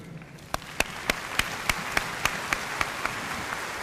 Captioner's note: audience applauding